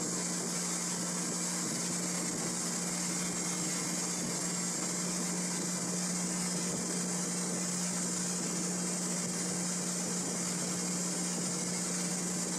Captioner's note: engine running and wheels spinning noise